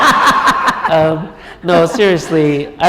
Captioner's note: laughter